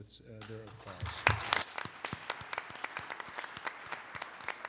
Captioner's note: applause